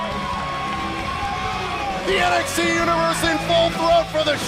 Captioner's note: crowd cheering